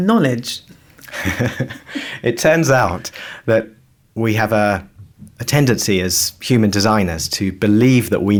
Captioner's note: laughs